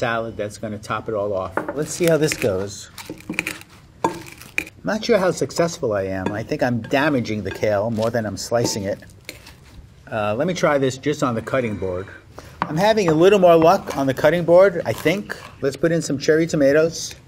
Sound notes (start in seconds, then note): 1.8 kale crunches